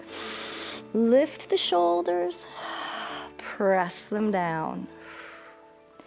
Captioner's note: exhales